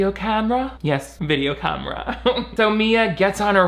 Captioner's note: laughs